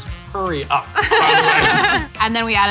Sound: laughing

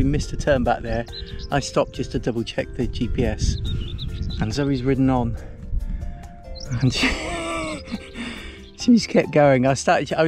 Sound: laughs

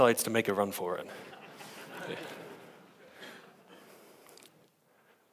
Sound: audience laughs

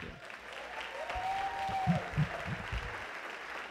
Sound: applause

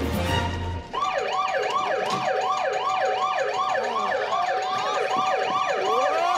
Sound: alarm blaring

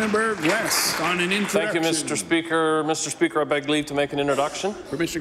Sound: applause

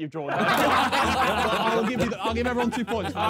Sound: men laughing

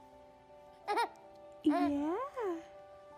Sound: baby laughing

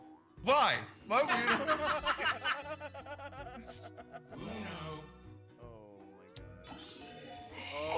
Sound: laugh

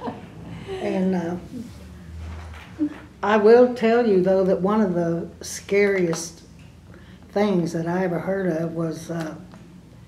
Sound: laughter

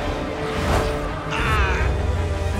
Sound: groaning

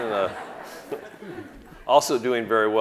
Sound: audience laughing

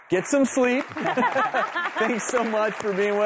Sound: laughing

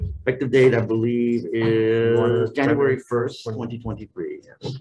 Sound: group chattering

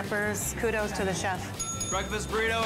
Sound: bell dinging

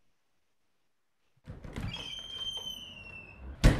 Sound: cabin door opens

